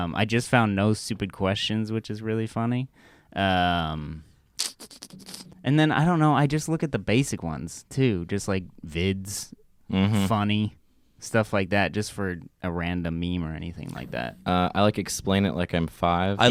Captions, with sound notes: I just found "No Stupid Questions", which is really funny. (clicks tongue) I don't know. I just look at the basic ones, too. Like, "Vids", "Funny", stuff like that. Just for a random meme or anything like that. - I like "Explain It Like I'm Five".